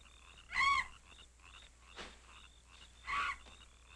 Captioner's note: bat shrieking